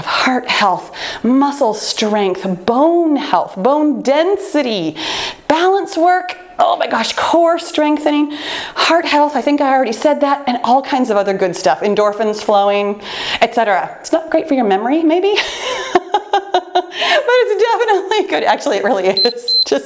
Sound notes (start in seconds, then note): 15.4 laughs